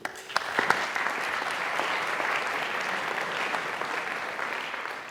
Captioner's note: audience clapping